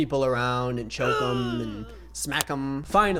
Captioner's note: man grunts